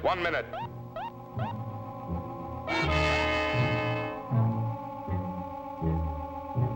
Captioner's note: tense music; machines beeping